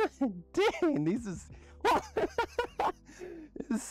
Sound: dorky laughter

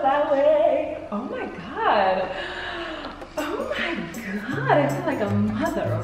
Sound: gasps

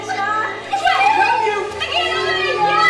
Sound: witch scream

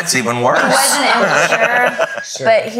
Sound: laugh

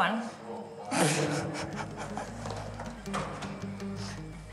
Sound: laughing

